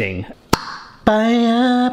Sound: lid clicks

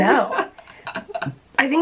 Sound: laughing

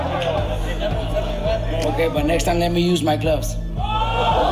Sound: spectators groan

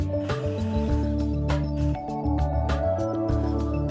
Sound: drill buzzing

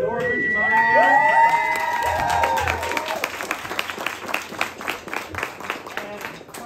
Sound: cheers

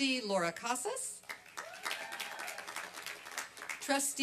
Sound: applause and cheering

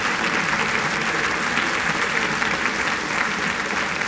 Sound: applause

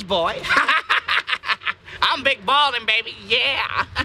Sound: laughing

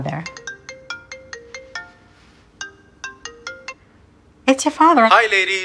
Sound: sound of smartphone ringing

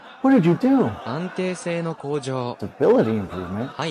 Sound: unable to translate Japanese

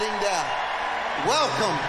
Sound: audience cheering loudly

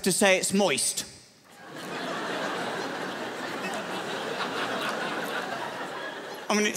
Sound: crowd laughs

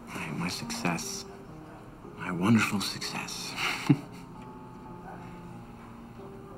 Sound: chuckles

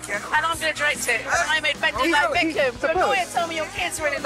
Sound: chatter

